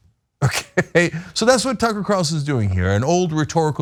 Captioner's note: laugh